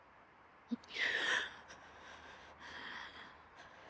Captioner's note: Olivia gasping